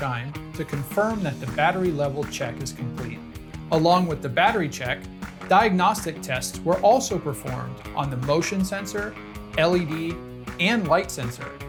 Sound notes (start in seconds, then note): none